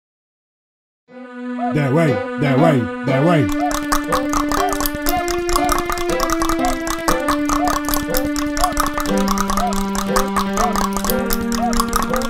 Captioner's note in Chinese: 彈舌